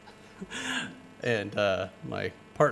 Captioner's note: laughing